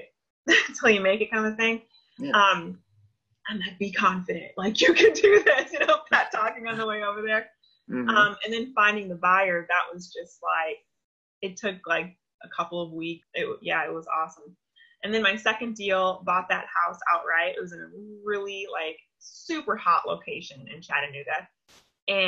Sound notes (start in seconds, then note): 4.8 laughs